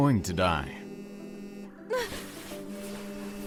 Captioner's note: phone vibrates